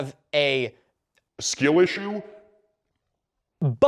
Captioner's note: deep voice